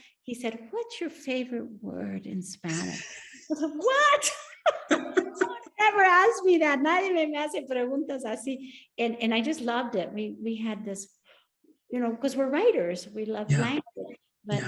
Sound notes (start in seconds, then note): 4.2 both laughing; 7.3 speaks Spanish